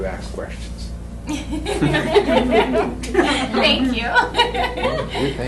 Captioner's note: laughter